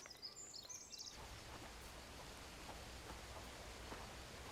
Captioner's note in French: gazouillis d'oiseaux; bruissement de feuilles